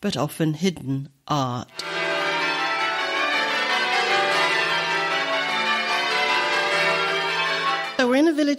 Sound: bells ringing rounds

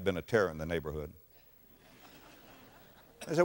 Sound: audience laughter

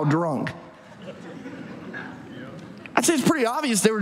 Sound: audience laughs

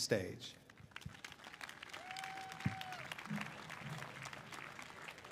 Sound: audience applauding

